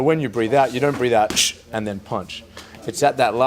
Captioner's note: fast exhale